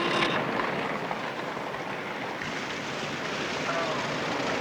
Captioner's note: car horn honking